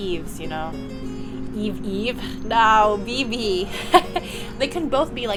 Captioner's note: laughter